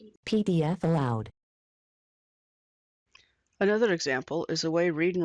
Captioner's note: computer – female voice